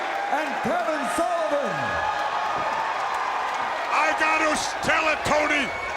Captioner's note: applause